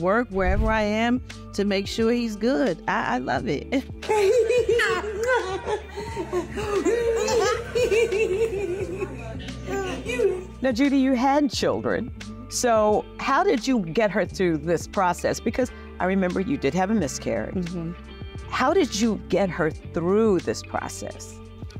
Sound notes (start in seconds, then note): 4.0 laughing